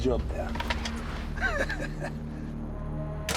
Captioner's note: chuckles